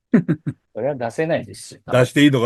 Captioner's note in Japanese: 笑い